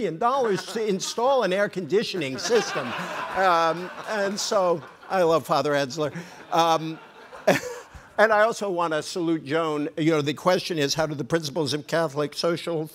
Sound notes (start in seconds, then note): 3.1 group laughing